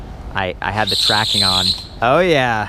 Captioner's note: tires screech